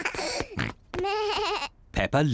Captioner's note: both laugh; bleats